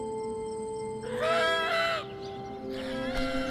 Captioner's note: eagle calling